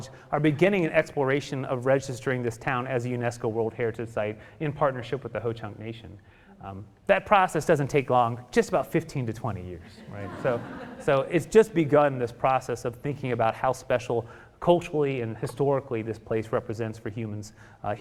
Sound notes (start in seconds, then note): 9.9 audience laughing